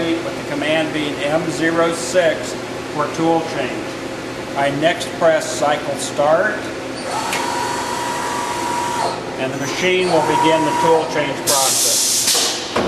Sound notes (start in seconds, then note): 7.0 machine whines